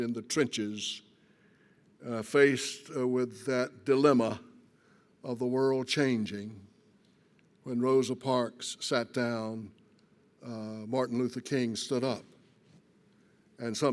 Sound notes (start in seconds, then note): none